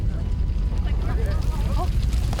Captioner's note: nervous chatter; rumbling continues